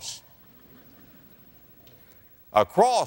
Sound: laughter

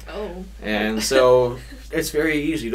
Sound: chuckles

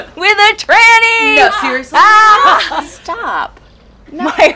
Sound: shouts

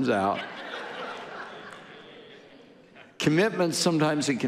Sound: audience laughing

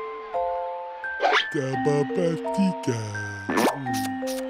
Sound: talks like a baby

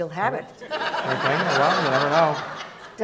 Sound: audience laughs

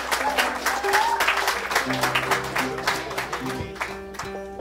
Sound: applause

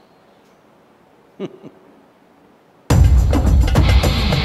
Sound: laughs

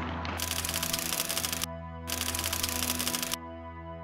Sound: typewriter clicking

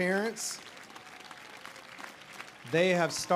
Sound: audience applauding

